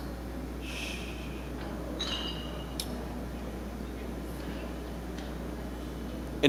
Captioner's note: smacks lips